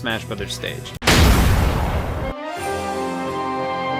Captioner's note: object smashes; epic music